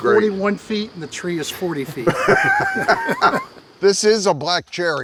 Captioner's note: both laugh